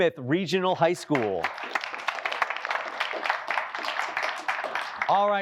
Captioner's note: applause